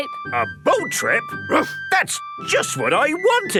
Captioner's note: barks